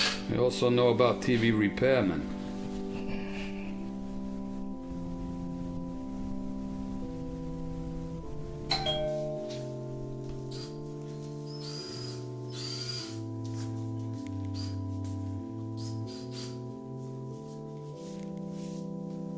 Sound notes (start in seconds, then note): 8.6 ding dong; 14.1 soft music